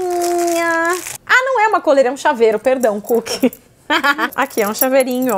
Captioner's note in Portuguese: risos